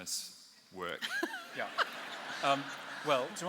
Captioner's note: laughter